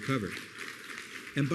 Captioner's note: applause